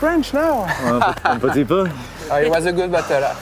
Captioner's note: replies in French